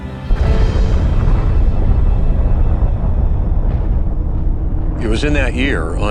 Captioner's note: explosion rumbling